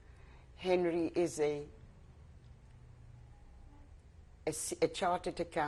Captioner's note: pauses for 3 seconds